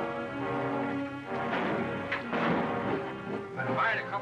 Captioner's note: gunshots